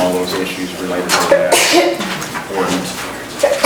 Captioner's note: coughing drowns out speech